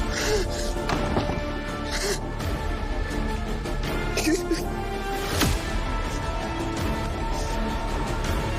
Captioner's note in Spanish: Sollozos